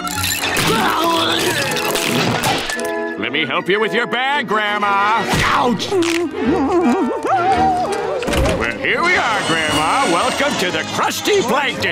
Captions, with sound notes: [groaning] Let me help you with your bag, Grandma. Ouch! [humming] Well, here we are, Grandma. Welcome to the Krusty Plankton.